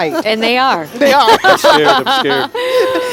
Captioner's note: laughing